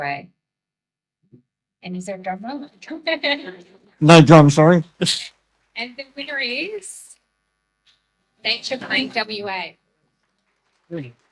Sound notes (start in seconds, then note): 3.1 laughter; 9.7 audience applause and celebratory music